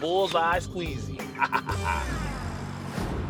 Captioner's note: laughs